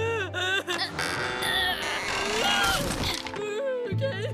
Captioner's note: wood creaks